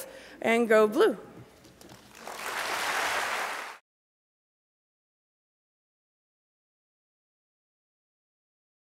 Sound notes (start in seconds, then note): 2.0 applause